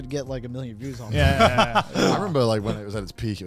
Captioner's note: laughs